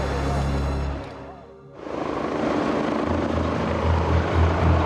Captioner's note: helicopter blades whirring